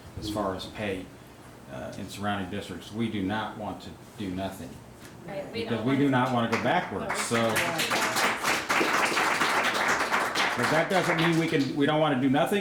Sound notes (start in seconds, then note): 6.2 audience claps